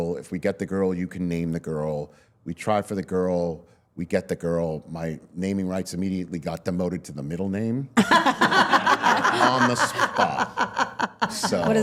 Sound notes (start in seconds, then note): 8.0 all laughing